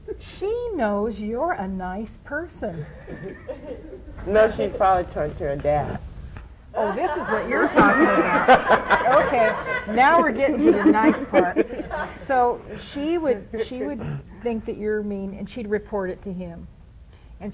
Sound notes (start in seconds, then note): 6.8 laughter